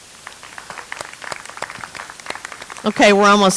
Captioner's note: audience applauds